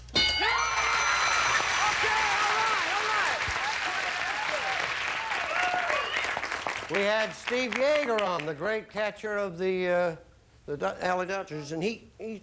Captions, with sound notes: Referee? [audience applauding] We had Steve Yeager on, the great catcher of the LA Dodgers,